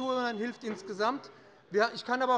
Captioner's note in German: Glockenzeichen des Präsidenten